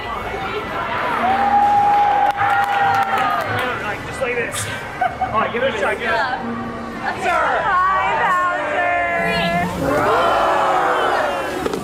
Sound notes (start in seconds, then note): 1.3 people clapping; 4.7 laughing; 10.6 people roar; 11.6 Pouncer stomps